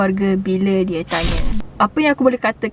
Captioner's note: stabbing effect sounds